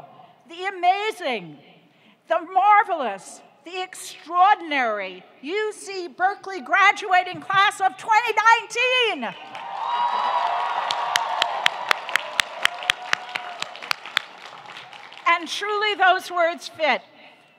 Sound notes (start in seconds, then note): 9.4 audience cheering; 9.4 applauding